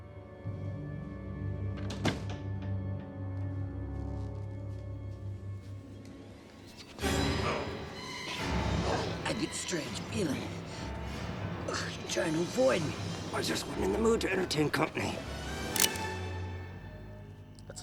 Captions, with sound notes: (door shuts) (dramatic music) - I get the strange feeling, you're trying to avoid me. - I just wasn't in the mood to entertain company. (gun clicks)